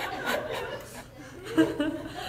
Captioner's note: laughter